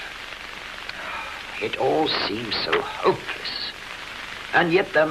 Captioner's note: sigh